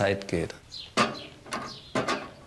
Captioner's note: birds chirping